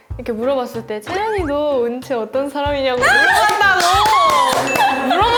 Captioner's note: giggling